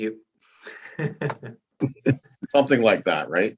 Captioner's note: laughing